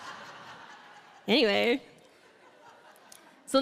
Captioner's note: audience Laughing